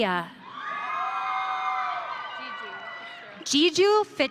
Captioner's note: audience cheering